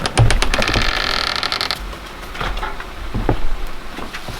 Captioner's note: door creaks